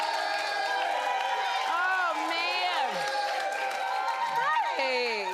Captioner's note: cheers and applause